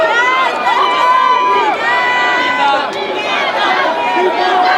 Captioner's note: crowd shouts